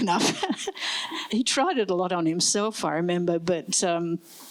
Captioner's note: laughs